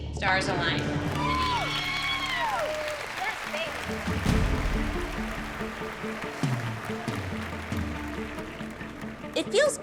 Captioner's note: applause